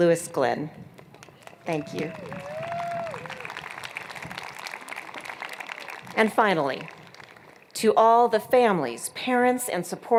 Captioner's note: applause